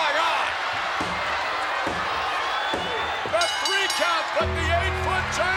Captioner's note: applause